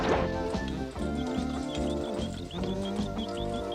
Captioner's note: Garfield humming